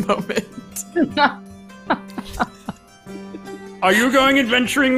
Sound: laughing

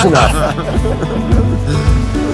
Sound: laughing

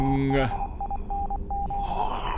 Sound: dot dash dot

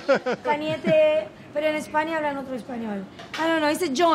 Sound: speaking in foreign language

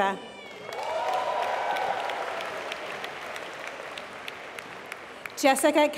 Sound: applause

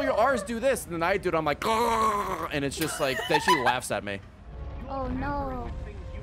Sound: chokes

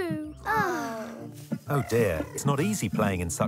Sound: sighs

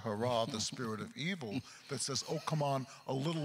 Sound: chuckles

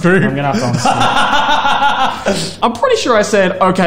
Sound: laughs

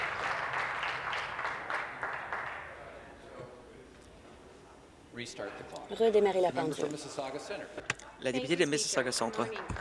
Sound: applause

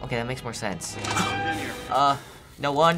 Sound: startled gasp

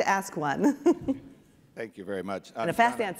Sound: chuckling

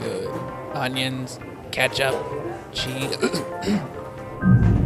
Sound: clears throat

